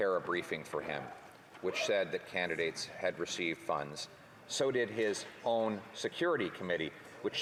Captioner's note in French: voix de l'interprète